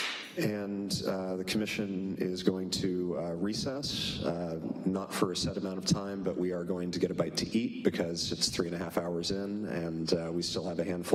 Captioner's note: applause